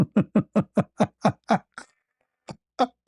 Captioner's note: ketawa